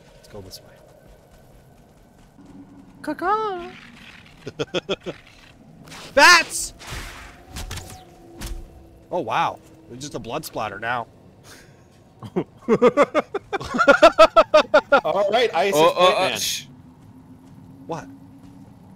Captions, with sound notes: Let's go this way... Ca-Caw? *laughs* Bats! Oh, wow! It's just a blood splatter now... *group laughter* All right, Ice is point man... Shhh... What?